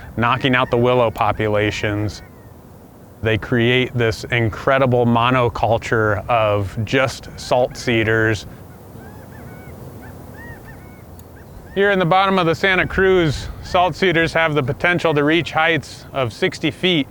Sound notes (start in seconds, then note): 9.0 quail chirping